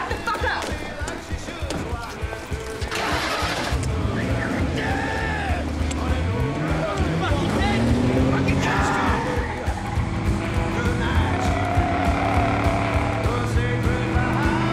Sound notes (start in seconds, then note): 2.8 engine turns over; 11.7 tires squeal